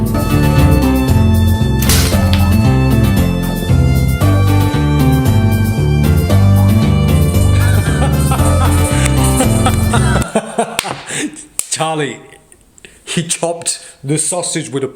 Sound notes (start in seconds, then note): 0.1 cowboy music; 4.3 cowboy music; 7.3 laughs